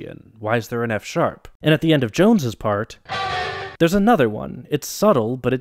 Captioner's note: bang